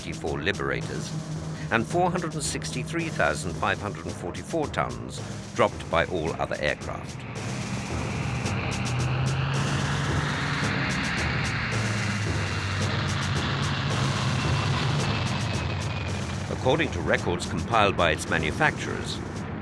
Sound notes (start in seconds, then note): 8.3 dramatic music; 8.3 plane roaring